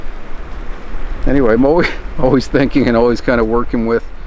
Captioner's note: chuckles